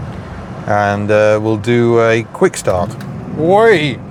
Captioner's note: engine sounds